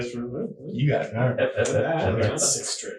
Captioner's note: laughing